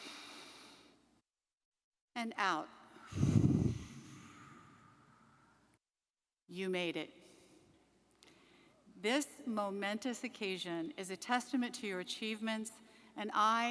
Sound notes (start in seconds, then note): 0.2 inhales deeply; 3.0 exhales sharply